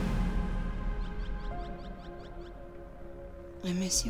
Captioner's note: wind whooshing; birds chirping